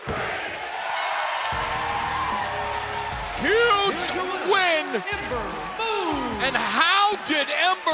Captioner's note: bell ringing